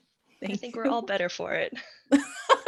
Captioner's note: laughs